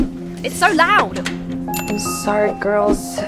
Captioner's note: workers laughing; call to action dings